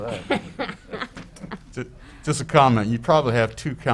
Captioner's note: woman laughs